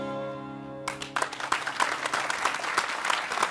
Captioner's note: applause